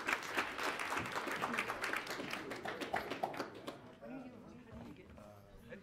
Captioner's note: audience applauds